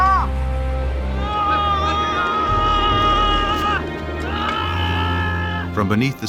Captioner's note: worker yelling